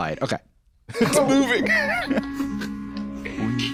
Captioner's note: laughing